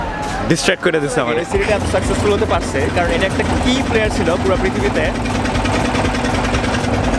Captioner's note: interrupted by boat motor